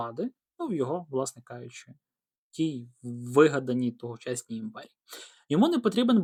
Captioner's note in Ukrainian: сопіння